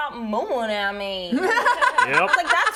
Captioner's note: laughing